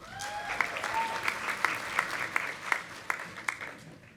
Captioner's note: audience applauding